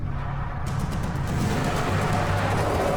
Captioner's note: tires screeching